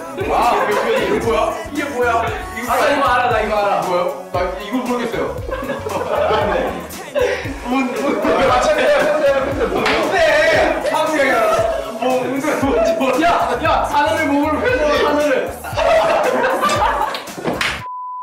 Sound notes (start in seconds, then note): 5.4 laughs; 9.3 Bangtan laugh; 14.6 Bangtan laugh